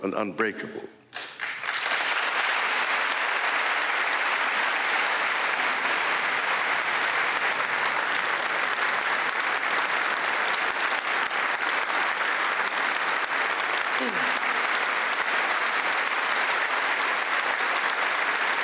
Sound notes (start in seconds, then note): 5.2 applause